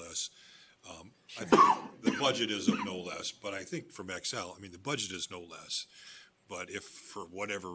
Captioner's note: cough